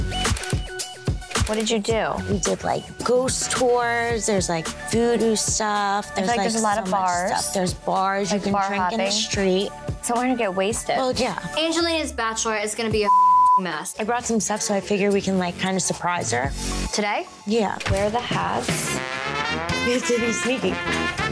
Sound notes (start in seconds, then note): 13.0 beep; 21.0 trumpet blows